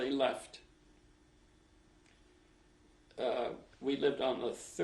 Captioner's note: pauses for 3 seconds